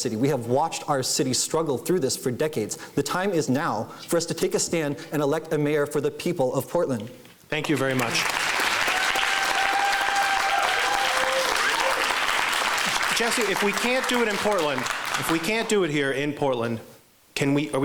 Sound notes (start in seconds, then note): 8.1 cheering